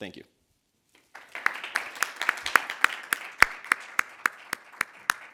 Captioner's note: audience applauding